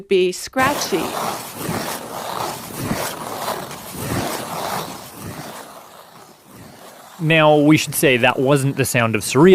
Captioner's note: skate scratching sounds